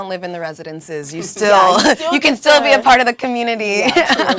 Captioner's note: laugh